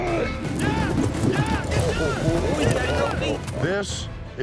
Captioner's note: shouts; rope whirling